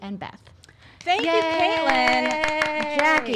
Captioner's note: claps